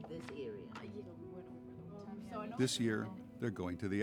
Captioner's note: chatter